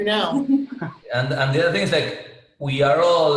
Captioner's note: giggling